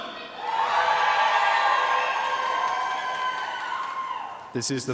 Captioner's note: audience cheering and applauding